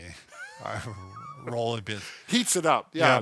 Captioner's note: wheezes